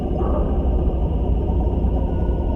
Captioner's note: distorted voice